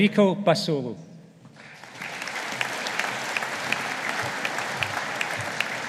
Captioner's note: audience applauding